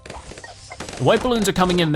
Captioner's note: balloons rapidly popping